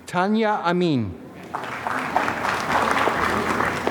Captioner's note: applause